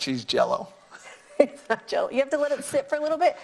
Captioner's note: laughing